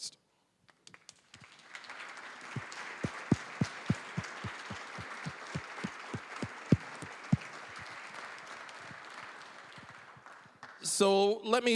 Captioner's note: applause